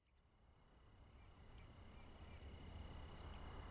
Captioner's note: crickets chirp